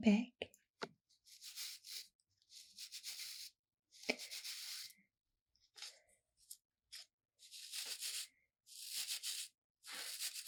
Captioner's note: bristles brushing